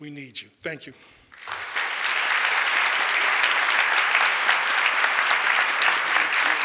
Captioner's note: audience applauds